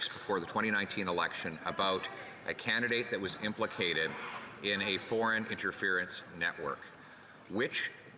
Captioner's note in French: voix de l'interprète